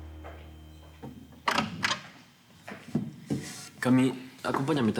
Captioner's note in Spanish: ruido al abrir